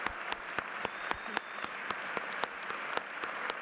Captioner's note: applause